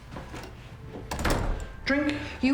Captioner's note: door closing